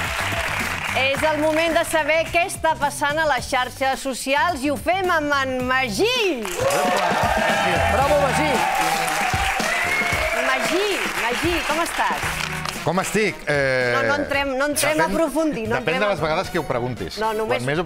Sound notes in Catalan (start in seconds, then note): 8.5 aplaudiments